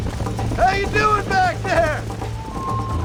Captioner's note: laughing